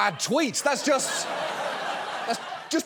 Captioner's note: audience laughing